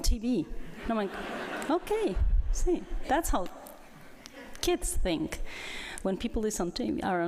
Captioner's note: laughter